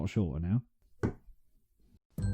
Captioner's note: knock